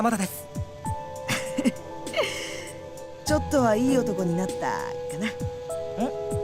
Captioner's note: chuckle